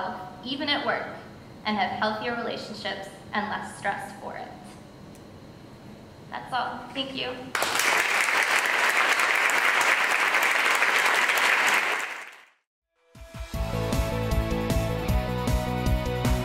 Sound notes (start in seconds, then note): 7.5 audience claps; 13.5 upbeat music